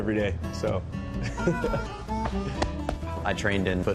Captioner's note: laughter